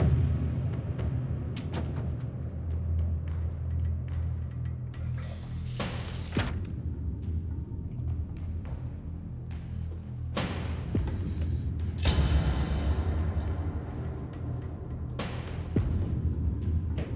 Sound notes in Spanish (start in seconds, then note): 1.6 Sonido al cerrar la puerta